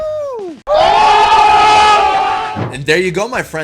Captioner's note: people screaming